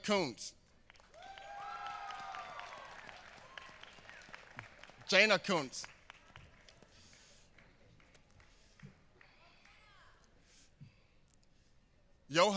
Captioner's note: applause